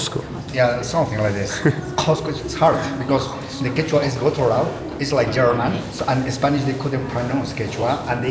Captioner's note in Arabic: بالإسبانية والألمانية